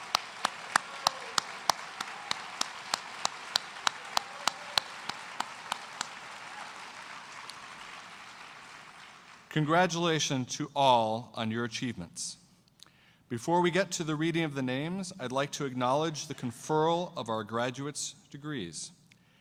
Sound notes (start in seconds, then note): 7.2 cheers and applause